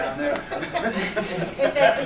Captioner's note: laughter